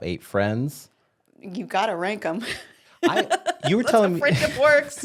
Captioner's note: laughs